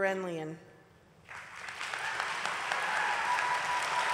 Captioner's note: applause